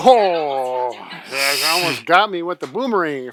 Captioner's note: laughing